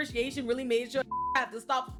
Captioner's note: beep